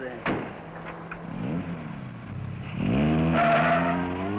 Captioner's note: engine roaring; tires screeching